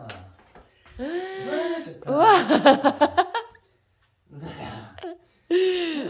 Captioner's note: laughs